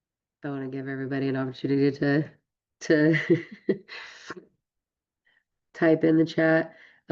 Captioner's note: laughs